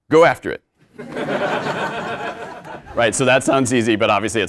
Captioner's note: laugh